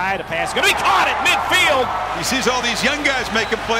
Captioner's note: fans yelling